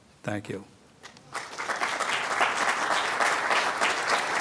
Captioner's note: applause